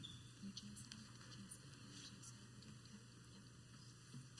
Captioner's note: group chattering